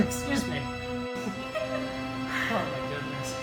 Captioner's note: both laughing